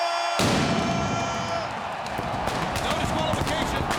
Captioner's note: fireworks booming